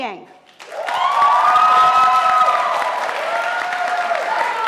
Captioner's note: audience applauding